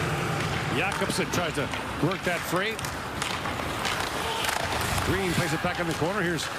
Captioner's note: crowd Reacts